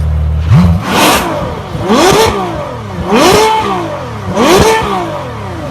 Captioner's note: Ferrari Reviving in the background